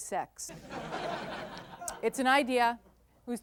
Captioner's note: audience laughter